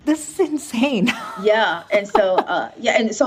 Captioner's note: laughing